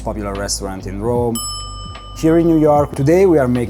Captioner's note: bell dinging